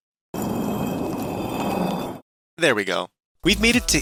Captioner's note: stone sliding sfx